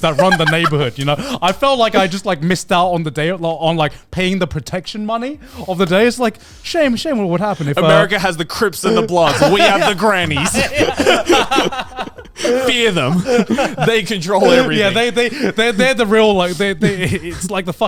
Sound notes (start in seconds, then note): 10.7 all laugh